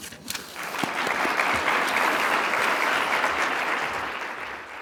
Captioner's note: audience clapping